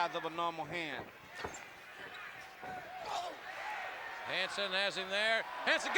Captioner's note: applause